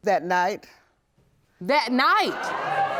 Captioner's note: audience gasping